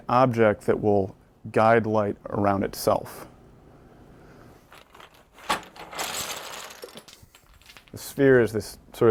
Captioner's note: sound of wooden blocks hitting table